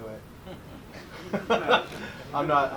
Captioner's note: group laughs